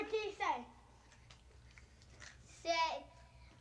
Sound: munching sounds

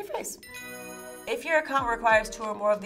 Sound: bell chimes

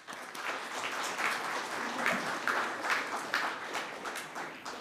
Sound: audience clapping

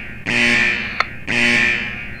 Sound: alarm sound; radio click

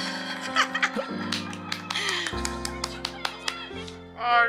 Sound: drunk

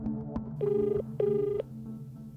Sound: line ringing

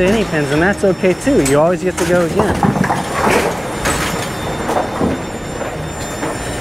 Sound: pins clattering

